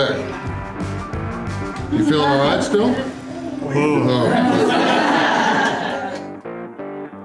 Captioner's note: crowd laughter